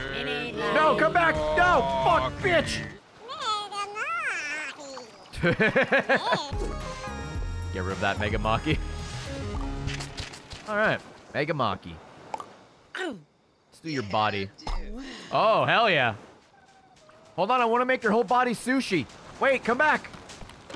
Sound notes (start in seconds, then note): 3.3 laughs